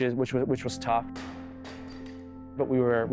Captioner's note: clanging; thudding